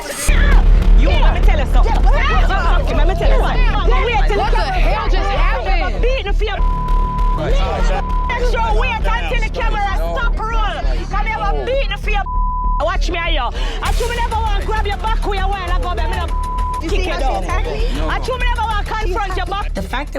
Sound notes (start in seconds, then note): 2.0 people shouting indistinct; 5.5 tense droning music; 7.5 people shouting indistinct; 14.4 tense droning music